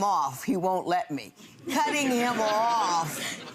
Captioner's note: laughing